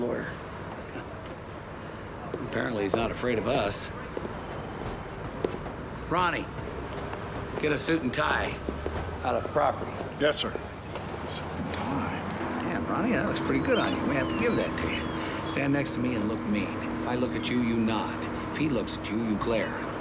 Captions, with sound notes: - The man wants to see his lawyer. - Apparently he's not afraid of us. Ronnie... get a suit and tie out of property. - Yes, sir. (whispering) Suit and tie? - Damn, Ronnie, that looks pretty good on you. I may have to give that to you. Stand next to me and look mean. If I look at you, you nod. If he looks at you, you glare.